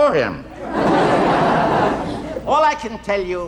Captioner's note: audience laughing